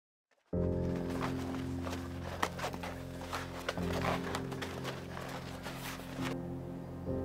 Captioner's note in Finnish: Lumella kävelyn ääniä